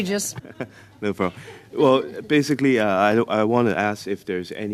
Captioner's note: laughter